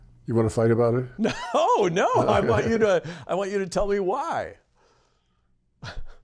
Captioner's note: laughter